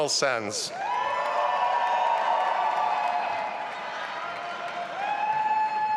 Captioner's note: audience applauding and cheering